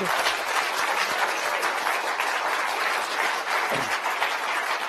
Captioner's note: applause